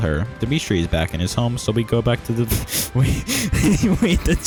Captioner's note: laughter